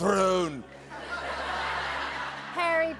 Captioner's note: laughter